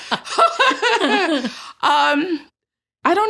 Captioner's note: laughter